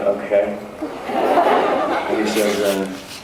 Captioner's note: laughs